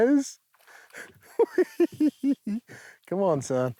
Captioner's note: laughs